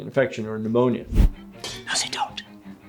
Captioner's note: video whooshes